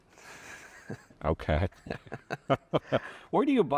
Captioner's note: chuckles